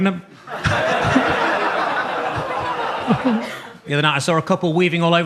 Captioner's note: audience laughs